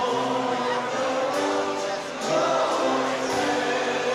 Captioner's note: chatter